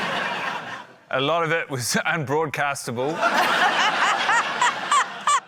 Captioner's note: laughter